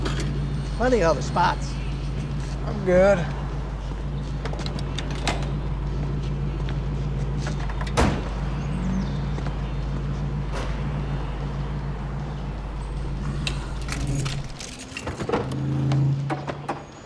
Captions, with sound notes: Plenty of other spots. I'm good. [ENGINE IDLING] [TURNS OFF ENGINE]